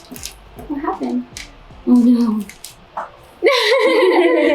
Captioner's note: laughing